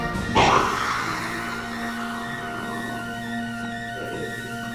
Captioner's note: snake hissing